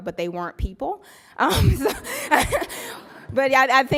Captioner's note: laughs